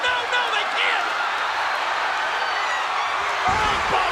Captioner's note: audience cheers